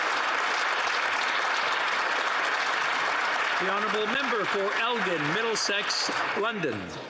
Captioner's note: some Applause